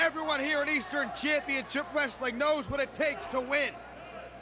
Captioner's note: crowd chatter